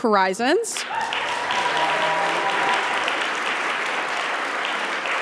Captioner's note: audience applauding